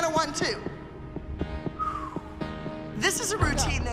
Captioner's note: whistling exhale